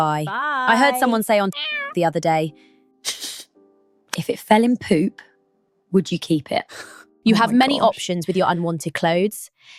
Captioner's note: meow